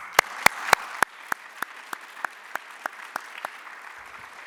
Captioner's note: audience applauding